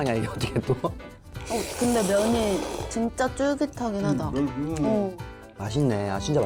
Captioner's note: slurping noodles together